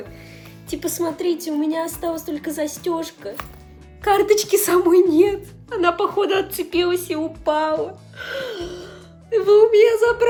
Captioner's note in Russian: драматичный вздох